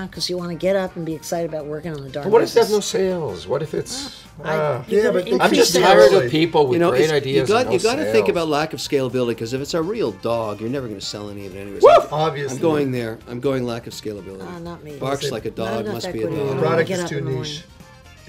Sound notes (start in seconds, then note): 4.6 arguing